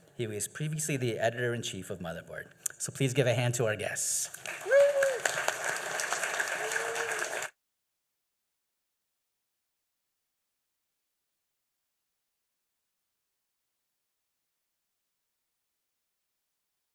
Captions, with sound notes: He was previously the editor-in-chief of Motherboard. Please give a hand to our guests. [applause]